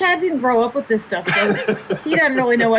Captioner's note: laughing